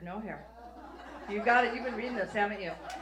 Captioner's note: audience laughs